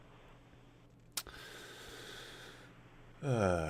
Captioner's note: sighs